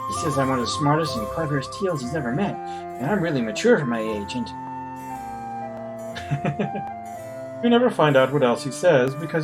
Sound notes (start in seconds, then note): 6.1 chuckles